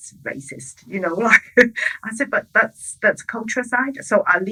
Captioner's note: chuckles